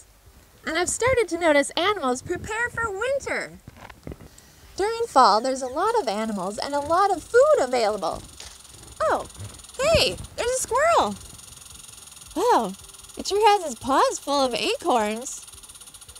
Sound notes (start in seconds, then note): 9.8 squirrel chattering